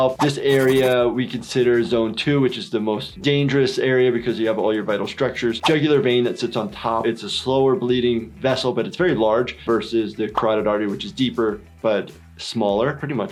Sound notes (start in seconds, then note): none